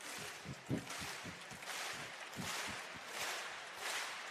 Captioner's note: clapping